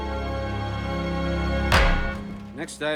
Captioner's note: thuds